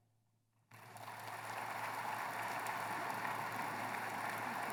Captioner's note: applause